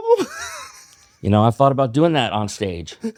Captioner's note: laughs